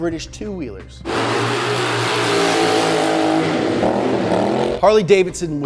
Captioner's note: engine revving